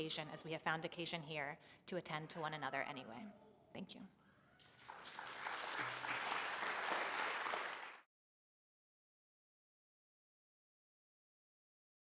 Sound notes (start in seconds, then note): 4.7 applause